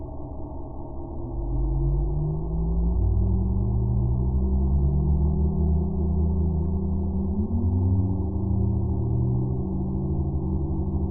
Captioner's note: dreamy sounds